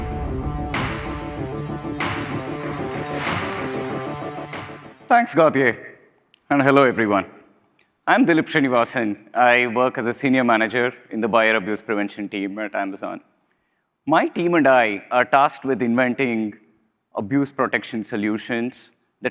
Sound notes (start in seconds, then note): 0.0 low rhythmic music; 2.8 audience applauding